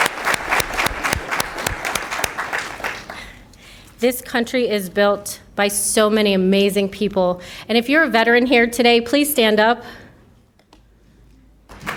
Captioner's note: applause